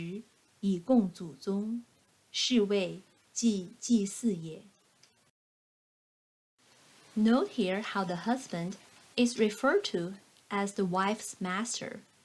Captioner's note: click